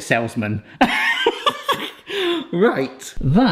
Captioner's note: person laughing